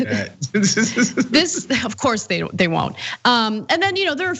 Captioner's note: laugh